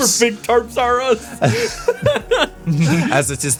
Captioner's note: laughing; laughs